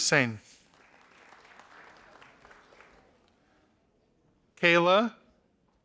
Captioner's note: audience applauding